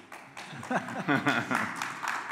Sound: applause

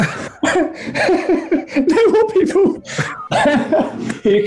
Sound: laughter; laughing

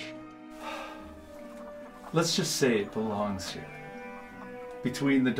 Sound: sighs

